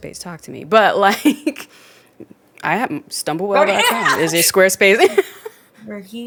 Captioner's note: laughs